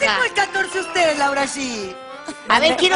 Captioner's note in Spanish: risas